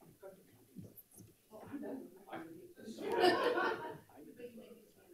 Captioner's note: people chattering